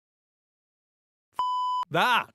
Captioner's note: beep